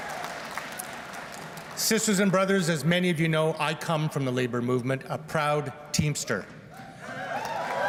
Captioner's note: laughter